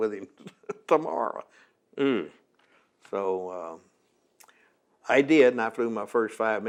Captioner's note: laughs